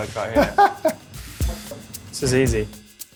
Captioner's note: laughing